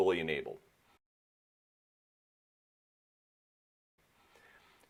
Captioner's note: silence